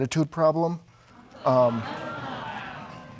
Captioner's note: audience exclaiming